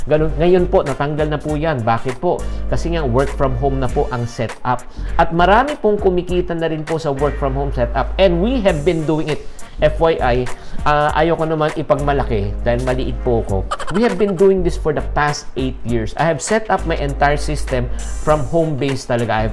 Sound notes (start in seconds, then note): 13.6 laughs